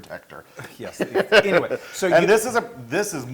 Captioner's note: laugh